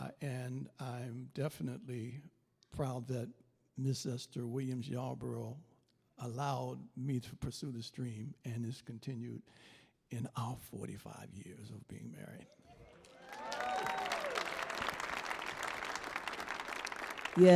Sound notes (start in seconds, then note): 12.6 audience applauding